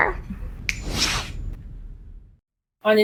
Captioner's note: snap and q flash